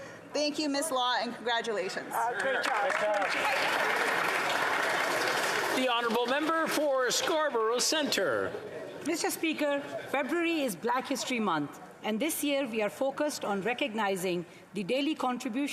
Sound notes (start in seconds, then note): 6.7 applause